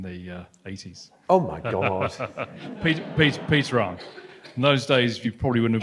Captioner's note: laughs